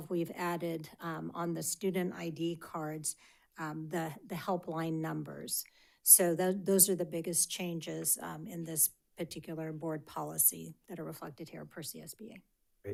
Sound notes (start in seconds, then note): none